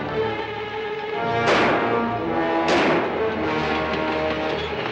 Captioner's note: gunshots